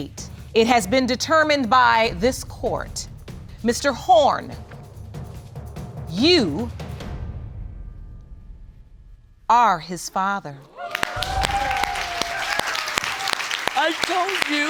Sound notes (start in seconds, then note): 10.8 applauding and cheering